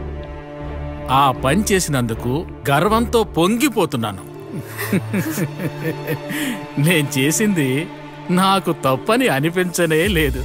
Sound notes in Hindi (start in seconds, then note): 4.5 हँसते हुए